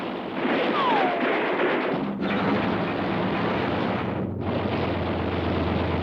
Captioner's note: gunfire; explosions